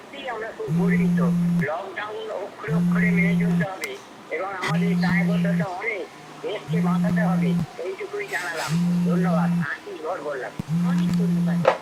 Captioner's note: radio playing; phone vibrating